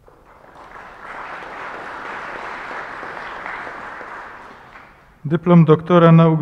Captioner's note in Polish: oklaski